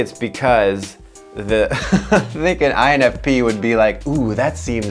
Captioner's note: laughs